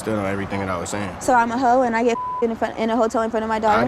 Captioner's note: beep